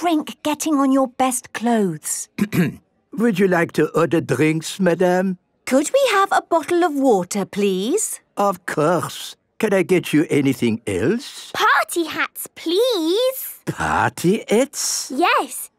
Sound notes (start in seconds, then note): 2.3 clears throat